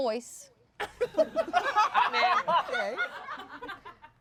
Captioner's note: everyone laughs